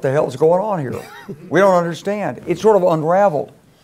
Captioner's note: laugh